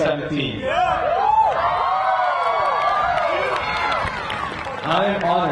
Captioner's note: crowd cheering; crowd applauding